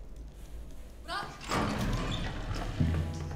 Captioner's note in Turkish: Kapı sesi